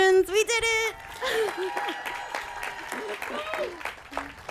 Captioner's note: applause